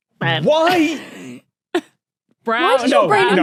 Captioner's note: wheezes